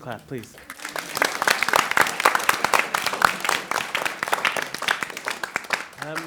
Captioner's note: applause